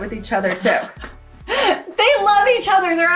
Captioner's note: laughs